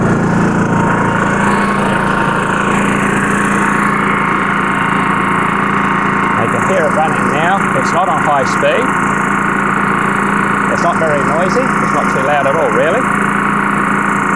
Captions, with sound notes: (engine running) now you can hear it running now. It's not on high speed. It's not very noisy, it's too loud at all really.